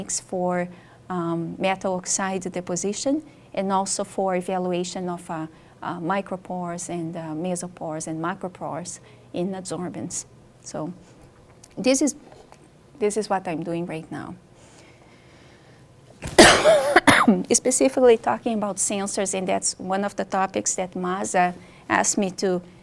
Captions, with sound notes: for metal-oxide deposition, and also for evaluation of micropores and mesopores and macropores in adsorbents. So, this is what I'm doing right now. (coughs) Specifically talking about sensors, and that's one of the topics that Maza asked me